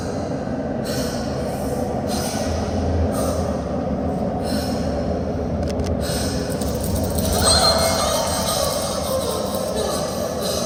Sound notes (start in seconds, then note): 4.4 heavy breathing